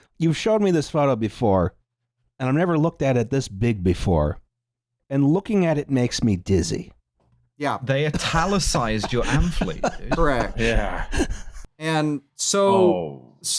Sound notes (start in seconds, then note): 8.1 laughs